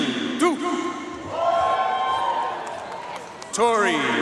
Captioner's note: audience cheering and applauding